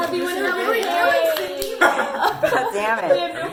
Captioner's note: claps; laughter